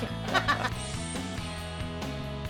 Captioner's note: laughs